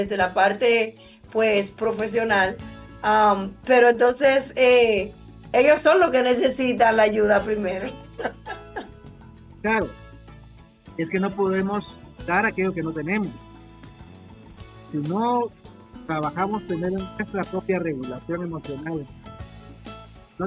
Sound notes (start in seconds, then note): 9.4 laughs